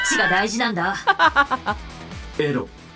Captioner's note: chuckles